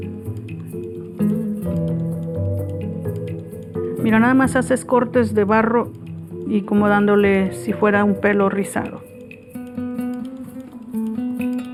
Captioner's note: speaking spanish